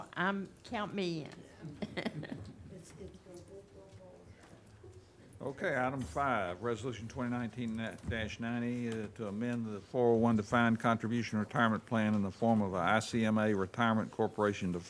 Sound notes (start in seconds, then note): 1.6 chuckles; 2.7 speaking faintly